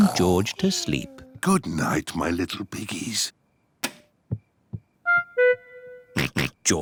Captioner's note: light switch clicks; oinks